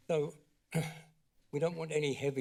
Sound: clears throat

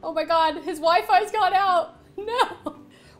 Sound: none

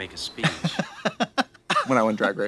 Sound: Katya laughs

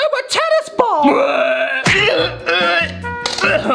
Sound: gags

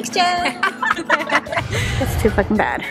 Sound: laughing

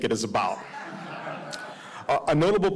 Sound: audience laughing

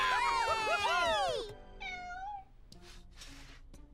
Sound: cheering, laughing; meowing

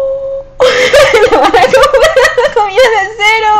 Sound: laughs

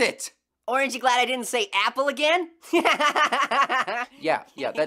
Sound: laughs

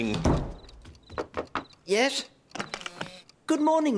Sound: knocking

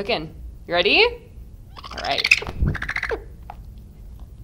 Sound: bird chatters

